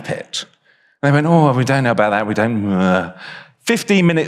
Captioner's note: mumbling mockingly